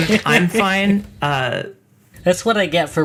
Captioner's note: laughs; stops laughing